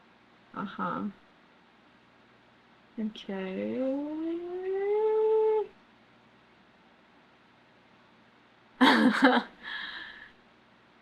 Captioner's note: laughs